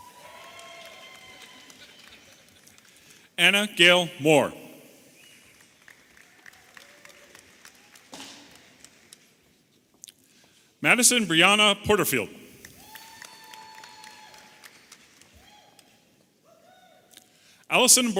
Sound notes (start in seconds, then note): 0.0 audience applauding and cheering; 5.2 audience applauding; 12.7 audience applauding and cheering